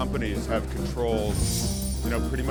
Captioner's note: driving music; bells tinkling